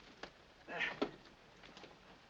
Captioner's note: grunt